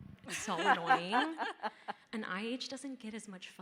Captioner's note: panelist laughing